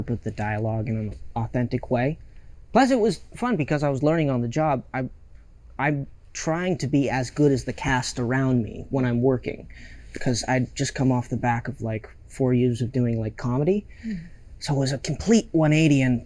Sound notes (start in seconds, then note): none